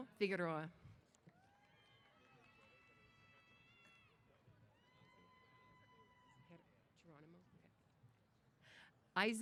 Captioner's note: cheers